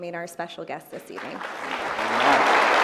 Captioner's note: applause